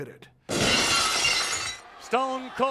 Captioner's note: glass shatters